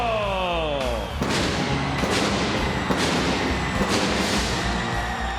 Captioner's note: pyrotechnics detonating